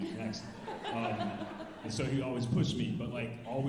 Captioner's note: alumni laughing